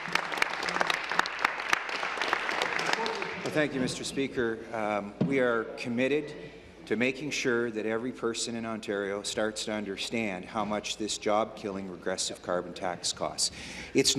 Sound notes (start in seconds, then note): 4.2 applause